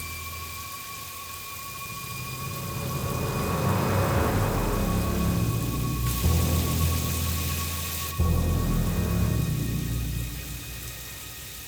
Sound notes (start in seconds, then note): 0.2 eerie music continues; 4.8 water continues running